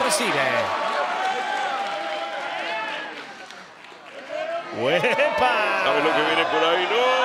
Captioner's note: applause